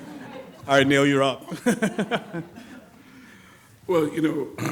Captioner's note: laughs